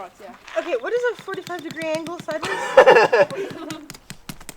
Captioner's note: rapid rock pounding